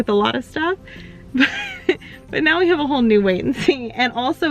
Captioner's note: chuckles